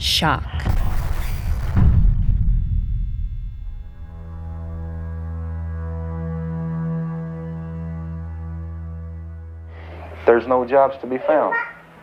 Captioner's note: soundbite of archived recording